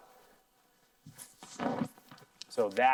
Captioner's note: digital static